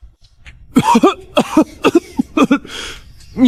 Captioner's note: cough, cough, cough